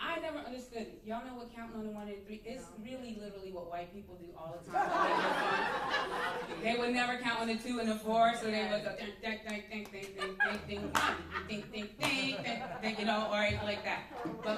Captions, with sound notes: I never understood it. Y'all know what counting on a one and three is? It's really literally what white people do all the time. They're different. [laughter] They would never count on a two and a four. So, they would go, [hums] [laughter] [claps] One, [hums] [claps]. Then, you know or like that,